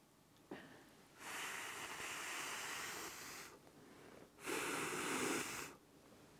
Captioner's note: blows on the probe